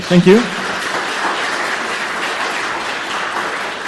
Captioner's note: applause